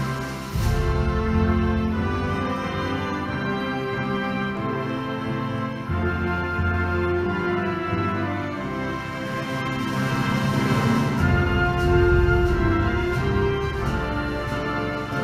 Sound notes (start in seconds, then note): none